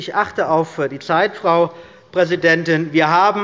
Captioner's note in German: none